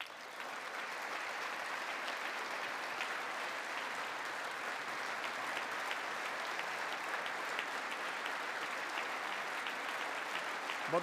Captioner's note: applause